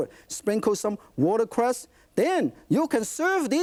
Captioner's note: none